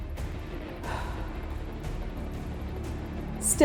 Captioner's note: exhaling heavily